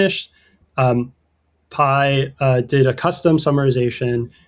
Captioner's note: uh